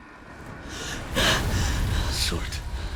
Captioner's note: gasp